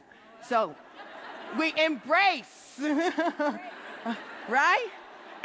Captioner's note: laughing